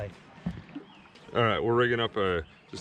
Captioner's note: water lapping